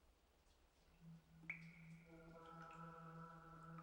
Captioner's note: water dripping